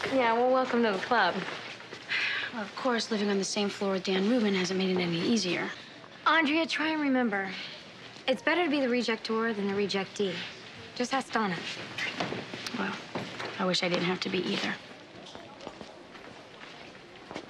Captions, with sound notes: - Yeah, well, welcome to the club. - (sighing deeply) Well, of course, living on the same floor with Dan Rubin hasn't made it any easier. - Andrea, try and remember, it's better to be the rejector than the rejectee. Just ask Donna. - Well, I wish I didn't have to be either.